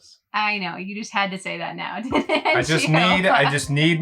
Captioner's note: laughs